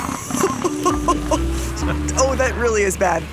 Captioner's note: laughing